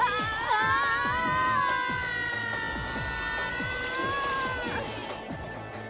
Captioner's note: screams